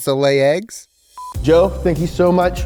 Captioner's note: video beeping